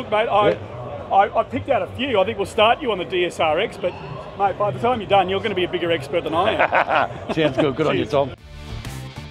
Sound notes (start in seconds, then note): 6.2 laughs